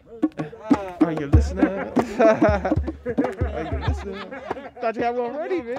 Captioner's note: voices chattering and laughter in the background